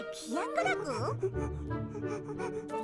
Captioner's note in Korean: 킁킁거리는 소리